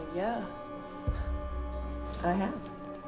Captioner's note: laughs